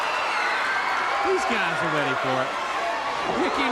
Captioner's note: crowd cheering